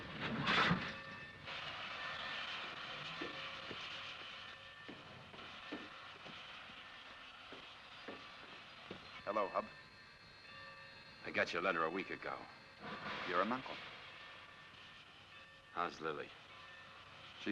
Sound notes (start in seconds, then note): 0.2 train clatters; 1.6 station bell rings; 1.6 steam hisses softly